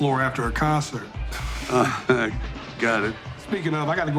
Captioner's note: Dwight giggles